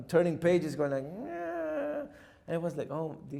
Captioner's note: grumbles